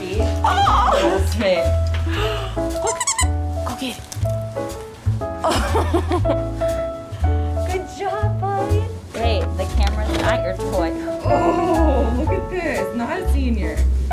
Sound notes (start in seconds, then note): 2.8 squeaks; 5.4 laughter